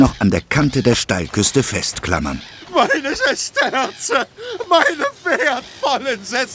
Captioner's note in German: gelächter